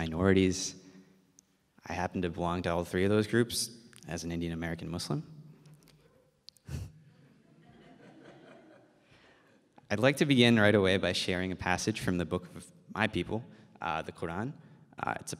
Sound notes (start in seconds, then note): 6.6 chuckles; 7.4 audience laughs